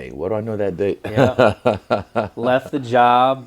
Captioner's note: Israel laughs